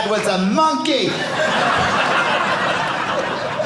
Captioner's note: audience laughing